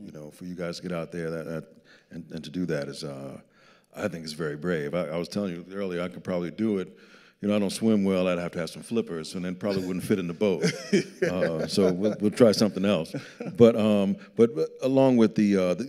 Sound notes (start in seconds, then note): 9.6 laughing